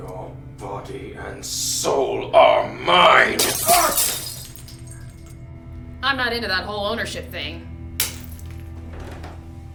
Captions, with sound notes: - Your body and soul are mine. (bottle shatters) (Vincent cries out) - I'm not into that whole ownership thing.